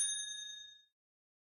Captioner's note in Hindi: घंटी की आवाज़